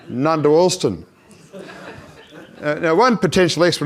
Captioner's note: audience laughs